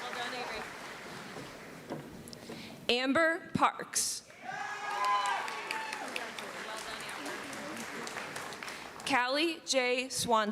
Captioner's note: cheering